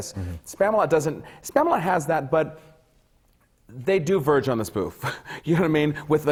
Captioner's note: laughs